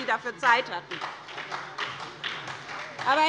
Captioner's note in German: Beifall bei der SPD